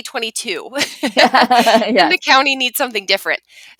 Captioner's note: lady laughing